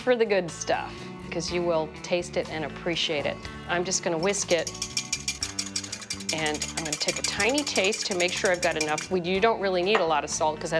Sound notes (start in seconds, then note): 4.2 whisking rapidly